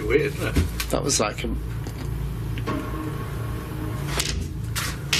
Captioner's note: loud thumping